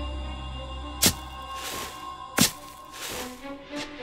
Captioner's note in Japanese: 地面を掘る音